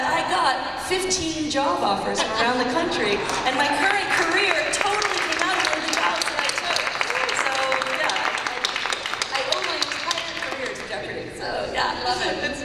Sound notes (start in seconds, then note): 6.9 applause